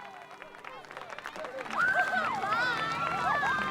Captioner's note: cheering